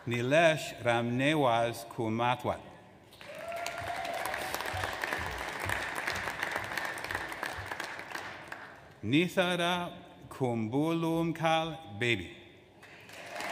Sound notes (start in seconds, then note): 3.2 audience applauds; 12.8 audience applauds